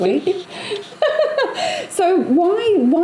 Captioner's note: laughs